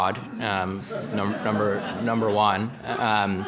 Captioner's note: audience laughing